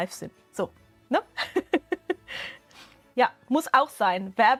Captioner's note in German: Gelächter